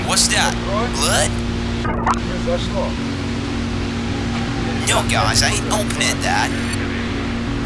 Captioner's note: static